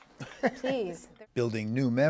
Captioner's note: laughter